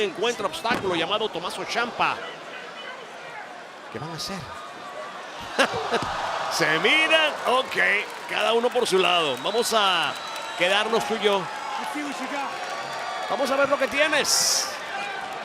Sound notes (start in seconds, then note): 5.4 laugh